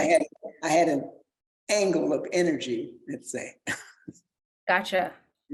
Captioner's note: chuckles